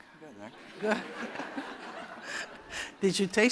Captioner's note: laughter